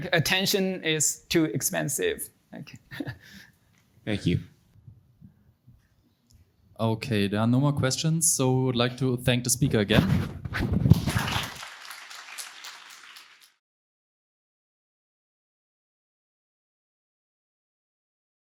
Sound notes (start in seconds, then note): 10.9 audience applauding